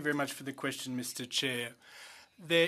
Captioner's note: speaking French